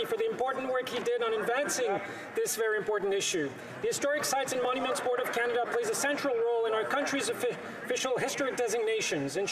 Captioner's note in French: voix de l'interprète